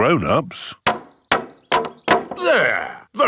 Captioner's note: hammering